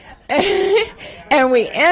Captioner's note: laughter